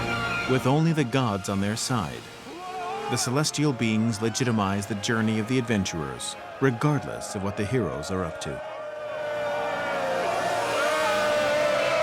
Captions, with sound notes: with only the gods on their side. The celestial beings legitimize the journey of the adventurers regardless of what the heroes are up to. [men cheering]